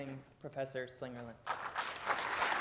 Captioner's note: applause